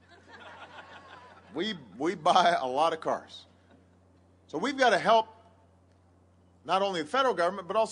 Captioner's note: laughter